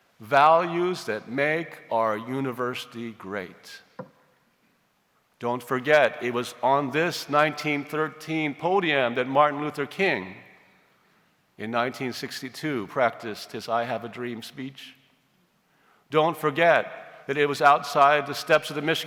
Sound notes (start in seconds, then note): none